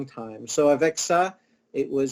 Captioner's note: speaking in foreign language